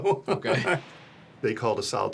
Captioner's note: laughs